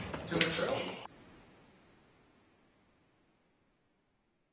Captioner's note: objects clattering